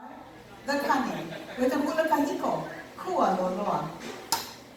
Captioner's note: woman speaking foreign language